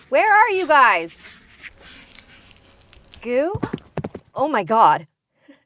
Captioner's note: wet, chewing sounds